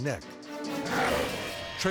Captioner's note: intense dramatic music; growls